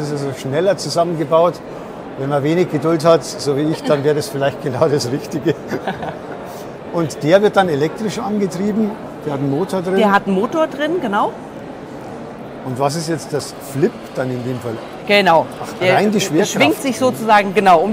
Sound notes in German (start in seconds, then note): 5.6 lachen